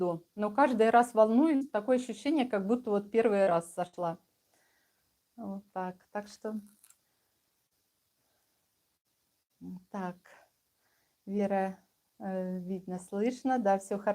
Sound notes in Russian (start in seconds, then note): none